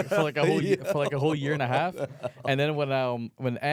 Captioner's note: laughs